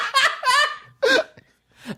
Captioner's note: cackles